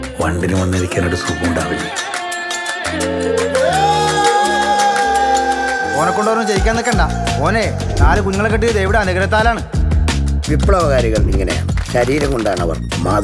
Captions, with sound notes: …the bee will find it cozy to come and sit on it? (Oracle bawls) Don't make him do it He got four children with Devi’s blessings Revolutionaries are like this They create examples with their own body